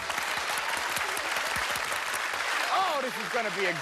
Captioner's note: applause